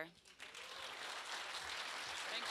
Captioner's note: applause